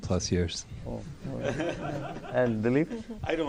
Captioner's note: laughter